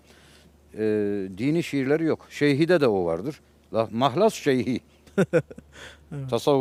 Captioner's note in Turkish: kahkaha